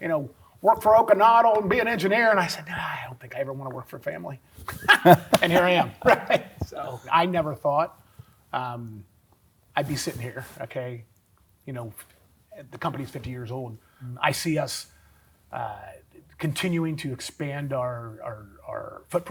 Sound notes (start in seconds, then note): 4.7 both laugh; 4.7 laughs